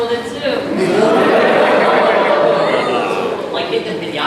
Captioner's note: shocked laughter from crowd